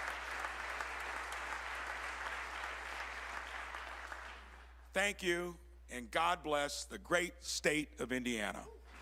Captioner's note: applause